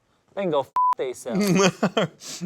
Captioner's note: beep; laughs